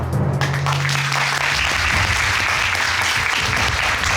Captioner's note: audience applauding